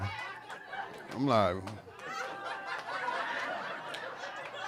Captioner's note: audience laughing